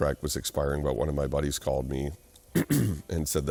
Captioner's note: clears throat